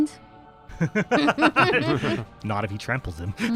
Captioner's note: laughter